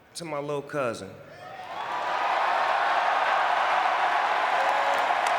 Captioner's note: audience cheering